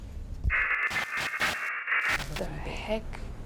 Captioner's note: buzzing